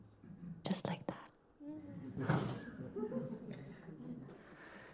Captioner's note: laughter